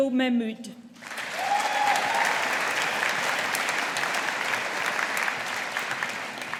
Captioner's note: audience applauding